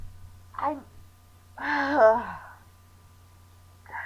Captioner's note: sighs